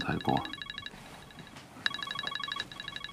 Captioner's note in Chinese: 電話鈴聲